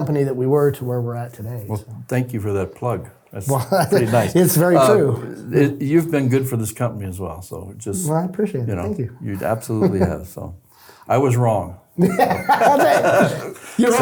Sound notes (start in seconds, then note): 10.4 chuckles; 12.0 both laughing